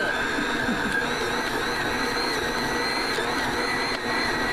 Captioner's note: stand mixer whirring